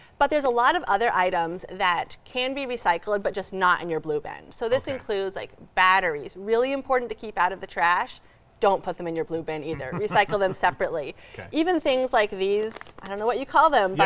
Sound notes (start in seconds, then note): 9.5 laughs